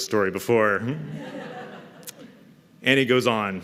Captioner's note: laughter